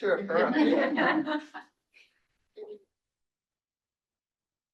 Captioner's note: crowd chuckling